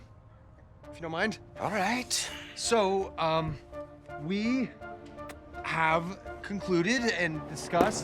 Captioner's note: sighs